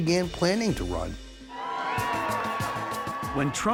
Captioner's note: cheers and applause